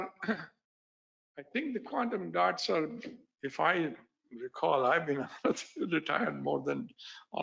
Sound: laughs

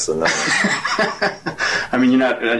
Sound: interviewer laughs

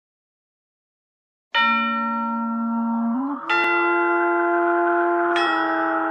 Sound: silence; spooky chime plays

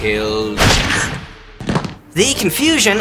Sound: gun shot

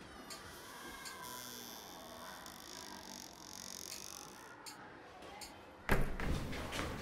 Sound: sound of door closing

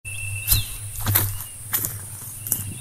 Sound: footsteps

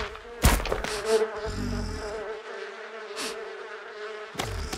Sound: footsteps; sniffing; grunting; sniffing; bees buzz

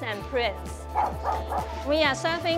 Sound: barks

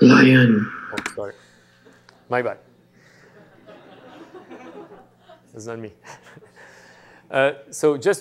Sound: laughter

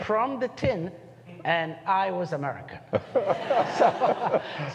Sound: laughter

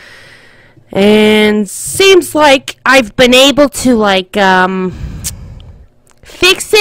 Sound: lip smack

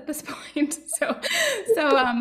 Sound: laughing

